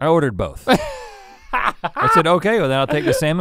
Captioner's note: Link laughs